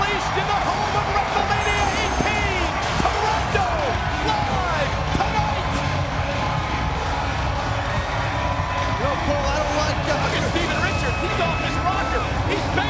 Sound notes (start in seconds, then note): 5.8 crowd cheering; 5.8 upbeat music